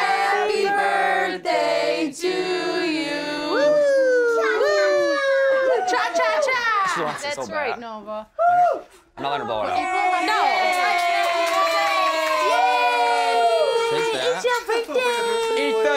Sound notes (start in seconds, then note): 3.7 partygoer hooting; 9.8 partygoers cheering and applauding